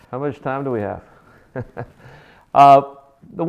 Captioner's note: laughing